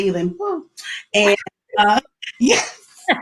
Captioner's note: laughs